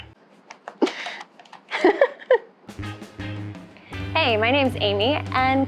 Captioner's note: giggling